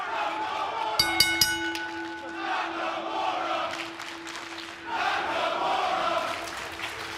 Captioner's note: cheers and applause; bell ringing; fans chanting